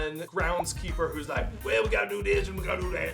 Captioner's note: in gravelly voice